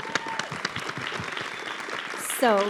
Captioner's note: audience clapping